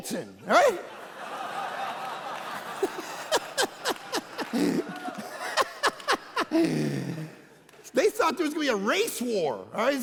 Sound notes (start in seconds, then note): 0.5 congregation laughing; 2.6 laughing